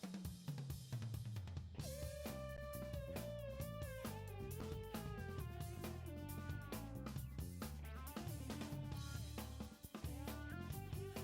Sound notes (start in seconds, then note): none